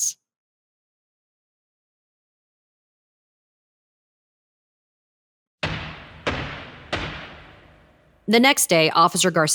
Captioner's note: sound of gavel banging three times in court